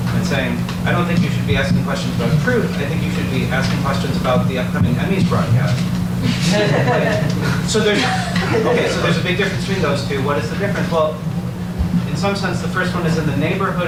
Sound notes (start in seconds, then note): 6.2 audience laughs